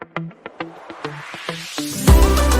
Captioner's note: air whooshing; energetic music